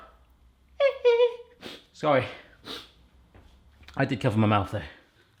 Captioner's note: sneezing; sniffs